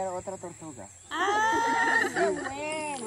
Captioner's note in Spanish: risas